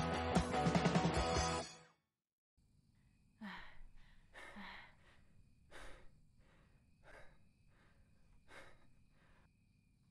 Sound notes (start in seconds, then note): 3.4 heavy breathing